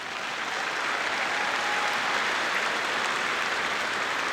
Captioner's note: audience clapping